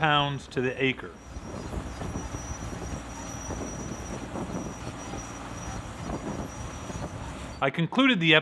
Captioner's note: harvester sounds